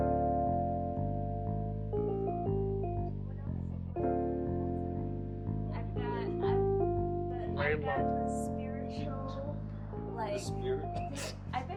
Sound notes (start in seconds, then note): 1.6 bright jazz music continues; 3.9 people chattering faintly; 11.0 laughs